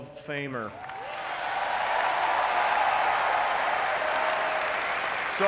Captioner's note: audience cheering and clapping